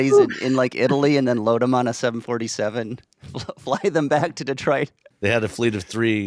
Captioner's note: chuckles